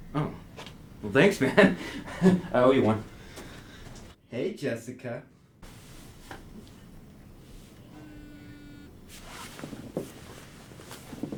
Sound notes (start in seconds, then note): 7.8 phone vibrates